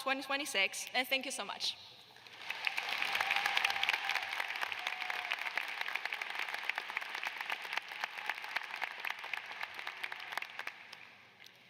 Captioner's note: cheers and applause